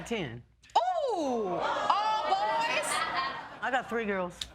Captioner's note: laughing